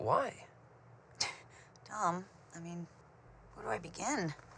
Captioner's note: scoffs